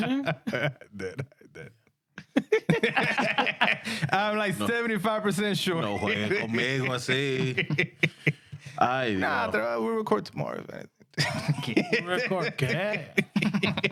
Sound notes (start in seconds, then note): 6.4 speaking In Foreign Language; 11.2 laughing